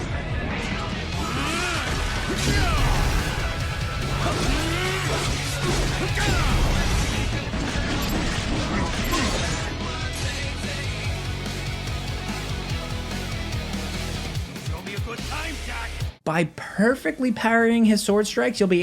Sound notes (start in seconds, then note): 0.2 dramatic music; 4.1 grunting